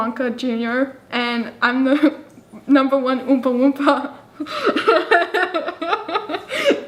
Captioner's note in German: lacht